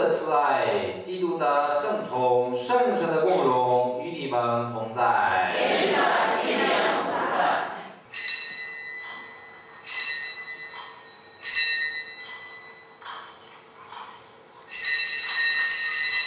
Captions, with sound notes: May the peace of the Lord be with you all. And also with you. [Bell ringing]